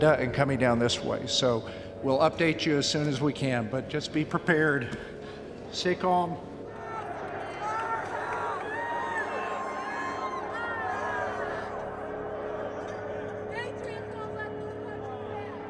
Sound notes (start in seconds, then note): 9.4 crowd cheering, yelling